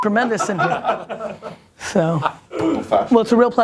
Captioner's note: people laugh